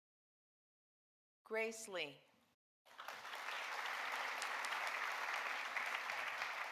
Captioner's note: audience applauding